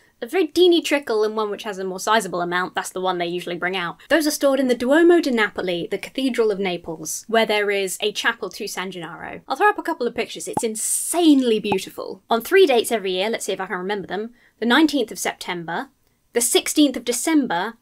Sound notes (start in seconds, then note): none